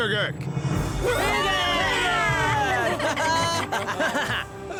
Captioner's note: all cheer